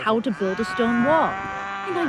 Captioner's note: cows mooing